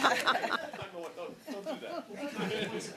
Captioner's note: laughter